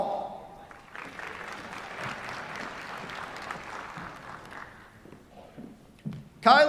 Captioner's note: applause